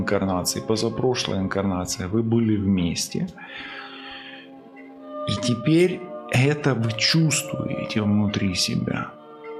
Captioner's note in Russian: тяжело вздыхает